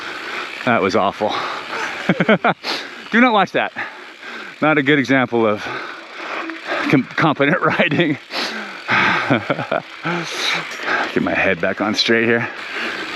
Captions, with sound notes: That was awful. (biker laughs) Do not watch that. Not a good example of confident riding. Get my head back on straight here.